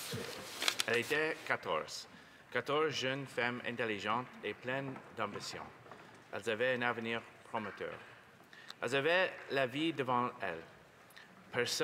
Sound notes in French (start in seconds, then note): 3.6 voix de l'interprète